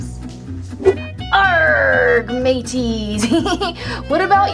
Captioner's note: laughs